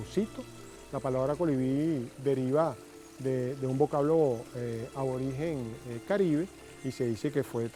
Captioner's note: hummingbird